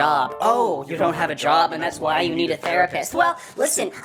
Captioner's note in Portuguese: Voz distorcida